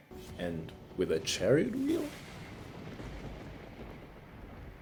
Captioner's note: thunder rumbling continues